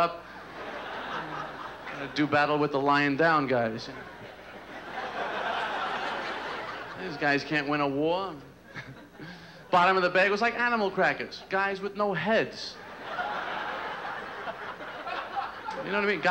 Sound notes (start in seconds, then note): 0.4 laughter; 3.9 laughter